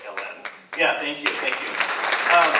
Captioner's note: audience applauds